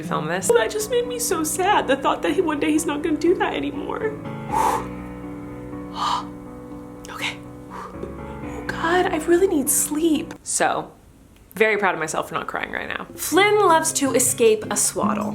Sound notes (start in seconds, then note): 4.4 exhales